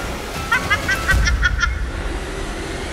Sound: evil laugh

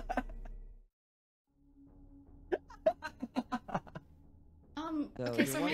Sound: laughing

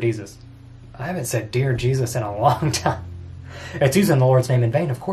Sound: laughs

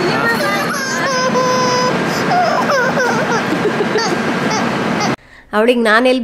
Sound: is crying

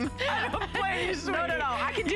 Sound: laughter

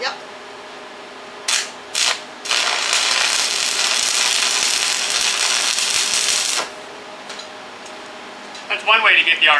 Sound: welding

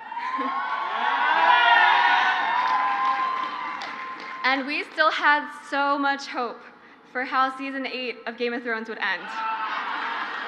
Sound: crowd cheers

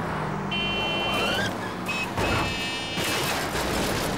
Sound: honking

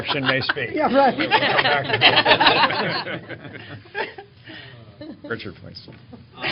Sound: laughter

